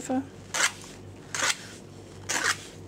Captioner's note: scraping, scratching noises